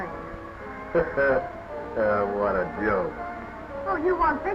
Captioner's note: laughing